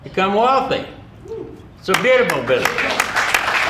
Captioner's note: audience member cheering; audience applauding